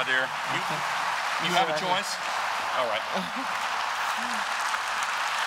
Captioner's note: applause